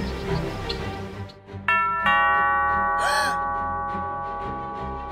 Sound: doorbell

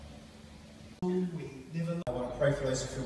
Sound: man talking

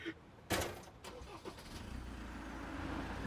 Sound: engine splutters

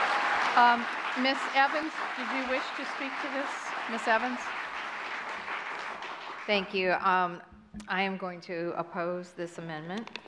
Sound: applause

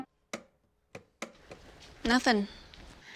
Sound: switch clicks

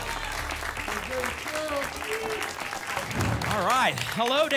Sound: applause and cheering

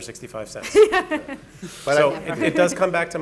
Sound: laughing

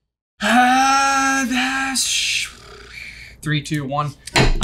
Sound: stammering

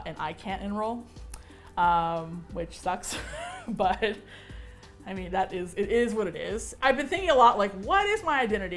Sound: chuckles

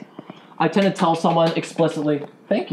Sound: one person clapping

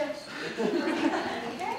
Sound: audience laughter

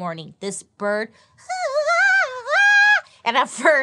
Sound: vocalizes

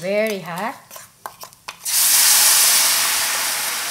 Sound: sizzle

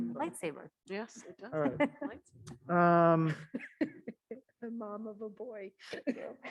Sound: laughs

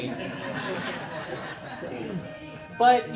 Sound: audience laughing

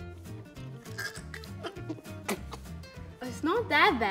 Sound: gags and spits

